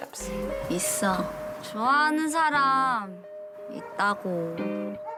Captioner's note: speaking in foreign language